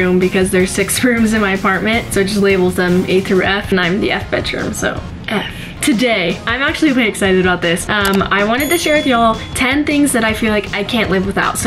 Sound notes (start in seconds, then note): 8.0 clicking; 8.6 bell dinging